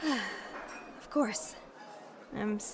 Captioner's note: sighs